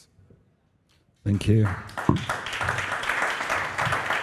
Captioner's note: applause